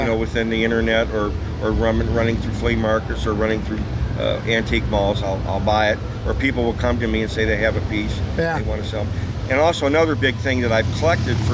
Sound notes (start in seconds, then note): none